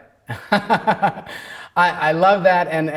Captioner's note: laughing